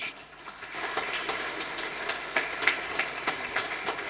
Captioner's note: applause